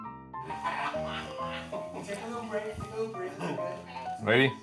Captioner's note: off-camera laughs